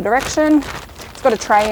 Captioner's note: bag rustling